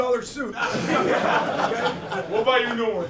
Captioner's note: all laughing